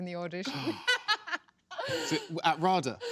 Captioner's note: laughs